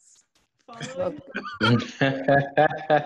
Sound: laughter

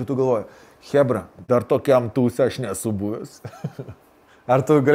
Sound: chuckles

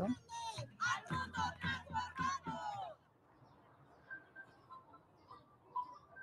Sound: crowd speaking in foreign language

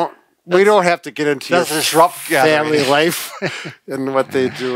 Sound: both laughing

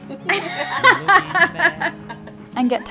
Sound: laughing

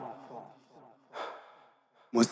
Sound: sigh

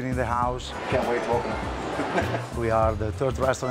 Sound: chuckles

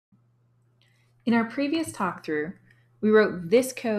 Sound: voiceover

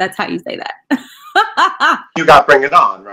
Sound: laughing

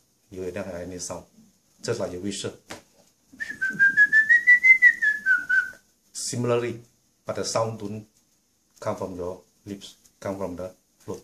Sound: whistling sound

